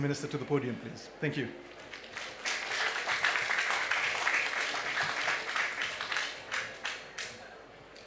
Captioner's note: applause